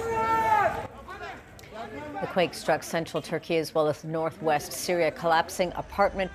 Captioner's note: shouting